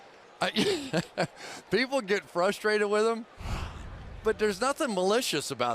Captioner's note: laughs